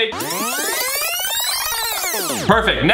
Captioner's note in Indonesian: rekaman fast forwarding